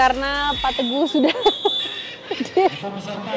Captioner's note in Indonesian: Ketawa